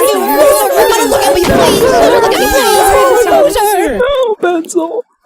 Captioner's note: wild cheering; pie explodes, cheering continues